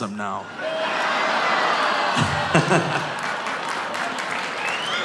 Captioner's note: audience laughing; audience groaning; audience applauding